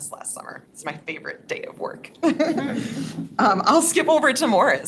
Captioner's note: laughs